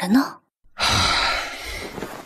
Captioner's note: sigh